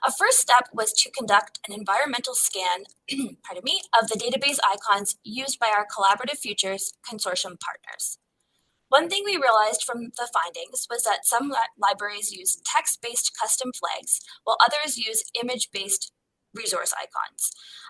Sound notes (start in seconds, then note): 3.1 clearing throat